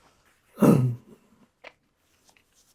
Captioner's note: clears throat